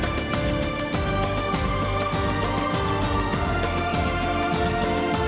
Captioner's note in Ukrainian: оплески